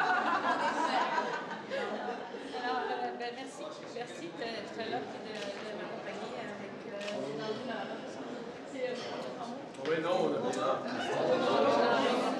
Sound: laughter

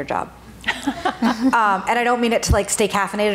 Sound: laughing

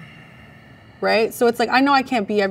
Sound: man sighs

